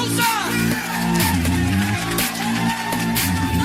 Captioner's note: Aplauze